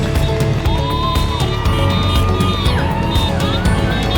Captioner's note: crowd cheering